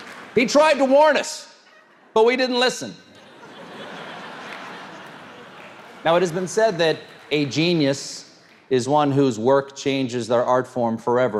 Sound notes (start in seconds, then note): 3.0 audience laughs